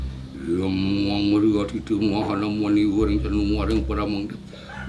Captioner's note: speaking in Sanskrit